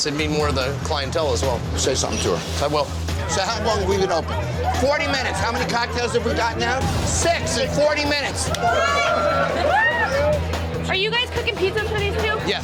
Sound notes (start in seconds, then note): 8.4 cheers